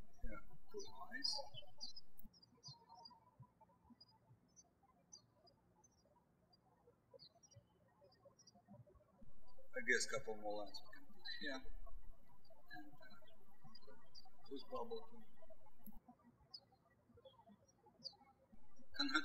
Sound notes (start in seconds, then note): 0.0 birds chirping; 3.0 birds chirping